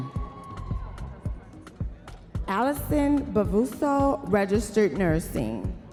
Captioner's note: audience members cheering